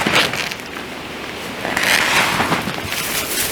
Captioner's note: rip